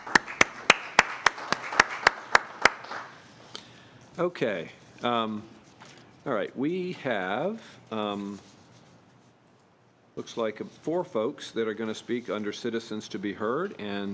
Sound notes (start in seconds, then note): 3.0 applause